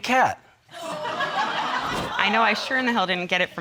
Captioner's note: audience laughing